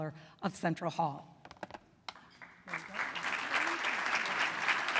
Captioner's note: applause